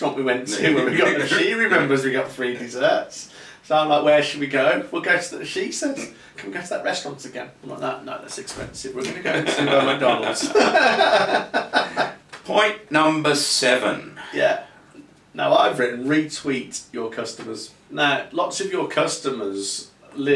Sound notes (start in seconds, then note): 11.9 laughing